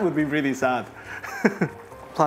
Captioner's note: chuckles